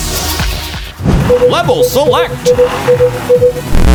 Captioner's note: beeping